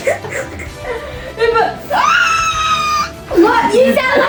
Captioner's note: both laugh; wheezes in a high pitch